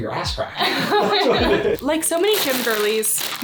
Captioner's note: both laugh